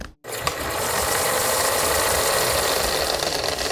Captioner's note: film reeling